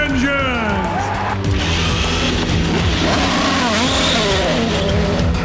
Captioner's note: engines revving